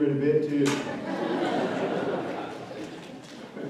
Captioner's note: laughter